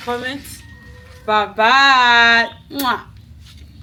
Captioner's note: kisses